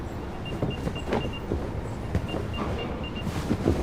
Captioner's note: beeping